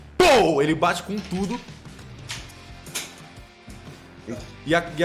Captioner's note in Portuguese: pow; sons de dado